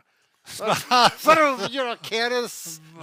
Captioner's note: laughs